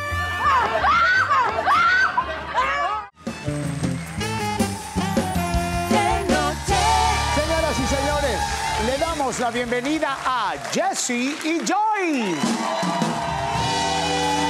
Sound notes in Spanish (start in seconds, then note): 0.0 Risas; 0.2 Grita; 1.6 Gritos; 3.7 Aplausos; 12.0 Ovación